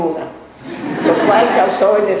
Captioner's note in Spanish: laughs